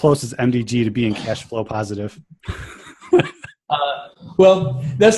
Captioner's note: chuckles